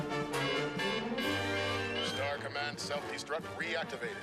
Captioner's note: beeping